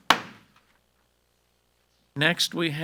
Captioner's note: gavel bangs